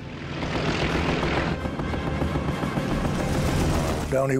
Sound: airplane engine roars

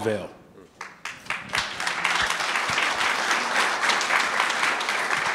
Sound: audience clapping

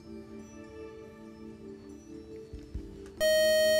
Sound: time-is-up buzzer

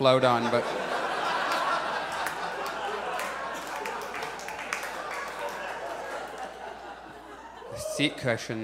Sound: audience laughs

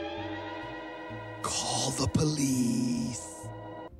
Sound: whispering

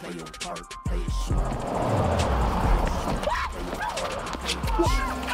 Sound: traffic humming; Alli screaming

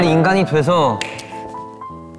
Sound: tap

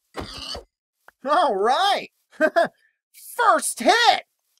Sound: laughs

